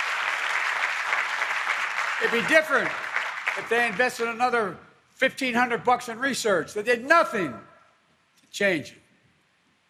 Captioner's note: applause